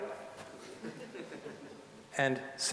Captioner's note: audience chuckling